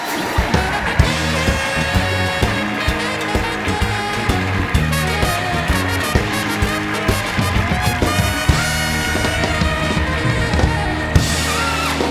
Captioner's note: cheering and applause